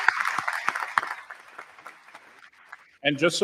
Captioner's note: applause